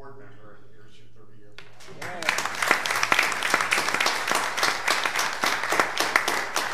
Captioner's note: audience applauding